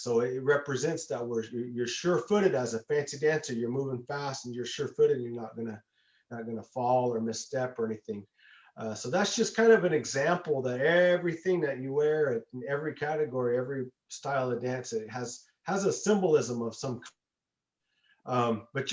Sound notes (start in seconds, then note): none